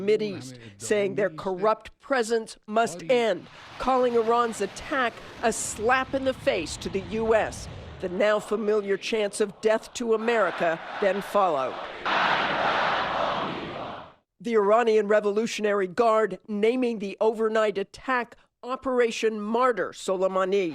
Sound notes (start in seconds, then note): 15.0 crowd chanting